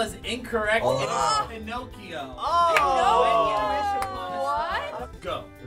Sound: all exclaiming

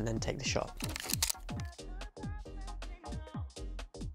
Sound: shutter clicking

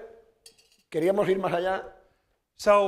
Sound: speaking spanish

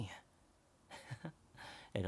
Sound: chuckles

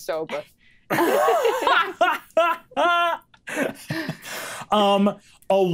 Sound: players laughing

